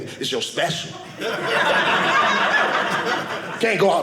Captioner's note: audience laughing